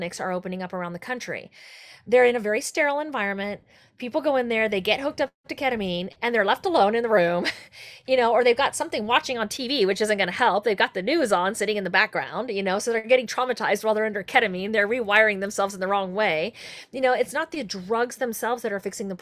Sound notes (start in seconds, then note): 7.4 chuckles